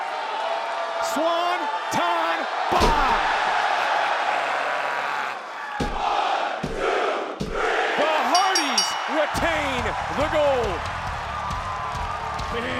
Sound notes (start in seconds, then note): 3.4 crowd cheering; 8.3 hand pounding; 11.0 crowd cheering; 11.0 upbeat music